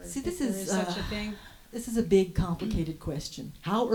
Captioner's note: sighs